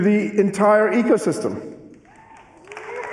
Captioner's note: cheering and applause